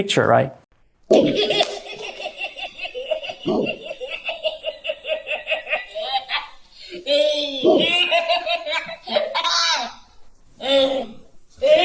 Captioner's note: baby laughing